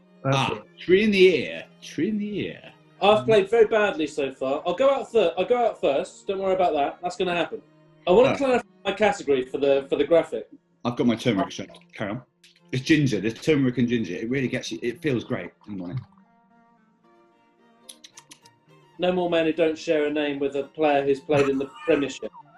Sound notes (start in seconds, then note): 17.9 smacks lips; 21.2 sniggering